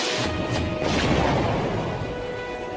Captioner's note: boom!